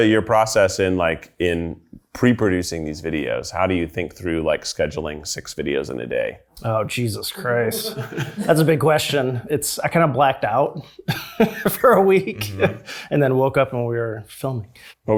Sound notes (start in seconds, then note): 7.6 people in the background laughs happily